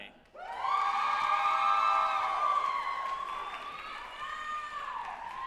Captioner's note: group applauding and cheering